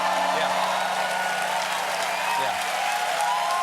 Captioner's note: cheers and applause